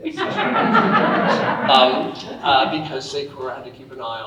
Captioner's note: audience laughing